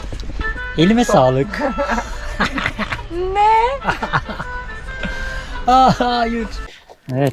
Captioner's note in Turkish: kahkaha